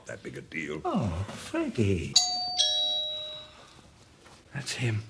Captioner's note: doorbell